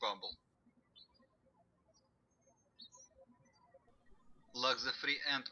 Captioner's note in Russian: птички щебечут